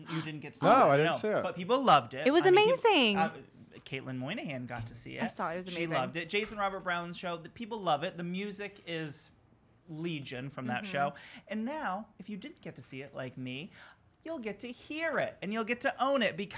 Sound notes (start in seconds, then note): 3.0 stutters